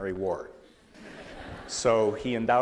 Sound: laughter

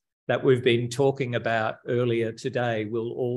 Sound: none

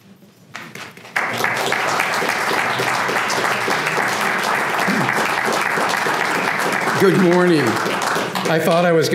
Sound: applause

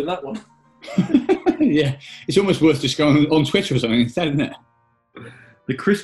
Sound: laughing

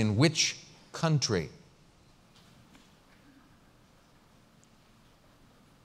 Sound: pause

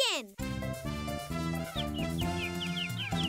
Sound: chirping

